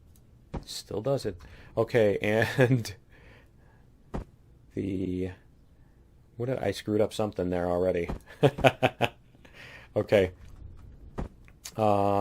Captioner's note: laughs